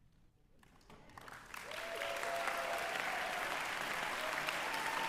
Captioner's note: applause